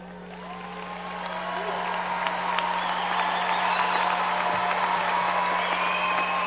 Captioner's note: audience cheering and applauding